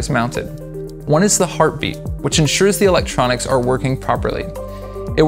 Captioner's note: heartbeat